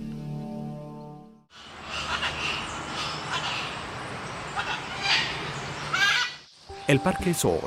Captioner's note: sonidos silvestres